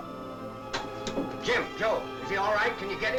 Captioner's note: radio switch clicks